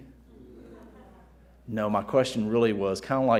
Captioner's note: audience laughing